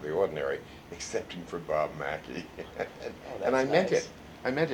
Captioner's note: laughs